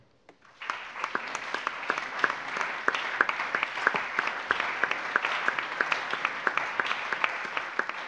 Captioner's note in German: Allgemeiner Beifall